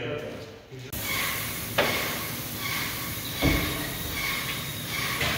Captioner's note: sprayer spraying